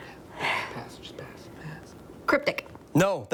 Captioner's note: whispering